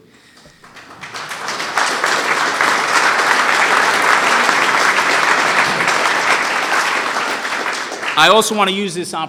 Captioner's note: applause